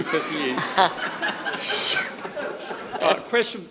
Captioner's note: everyone laughs